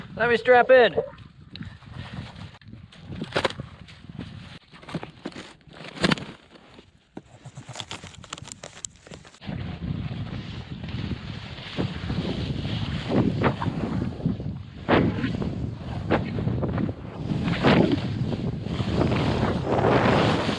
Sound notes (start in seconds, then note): 4.6 flapping; 7.8 clicking; 14.9 windy